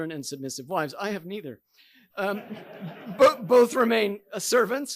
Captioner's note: audience laughing